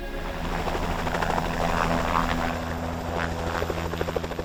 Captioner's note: helicopter buzzing